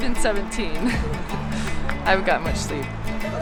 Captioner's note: chuckles